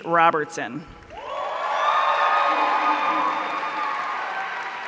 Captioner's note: audience cheering